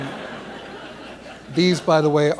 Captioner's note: laughter